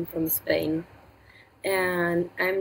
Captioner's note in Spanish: habla en inglés